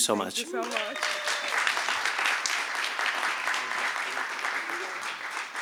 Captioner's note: applause